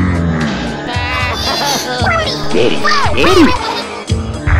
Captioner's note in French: Luigi pleure; sarcasme